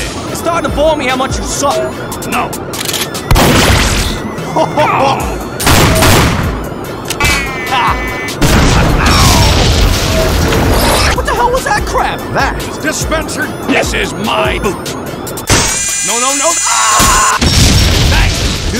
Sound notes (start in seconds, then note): 4.4 laughs, Moledier groans